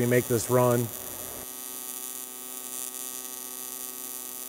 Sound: welder buzzing

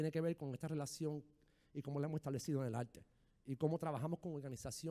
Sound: speaking in foreign language

